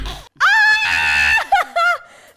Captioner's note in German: Kreischen